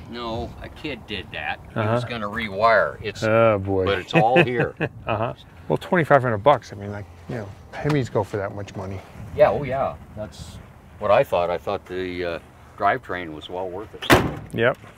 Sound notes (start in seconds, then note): 3.8 laughs; 4.1 voiceover; 9.8 voiceover